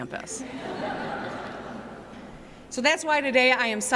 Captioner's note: laughter